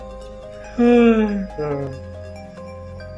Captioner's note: yawns